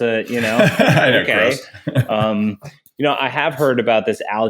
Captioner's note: laughs